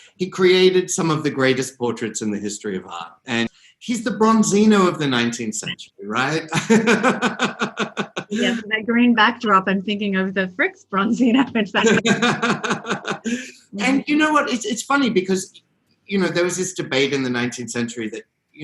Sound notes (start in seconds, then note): 6.1 laughs; 11.6 both laugh